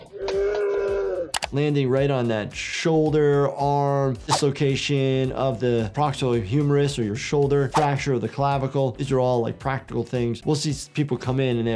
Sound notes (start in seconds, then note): 0.0 bear roaring